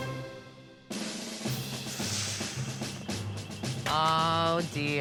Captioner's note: military drumbeat; sharply inhaling